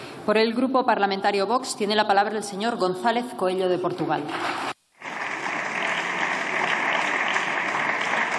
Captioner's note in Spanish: Aplausos